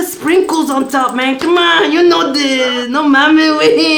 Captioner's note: grumbling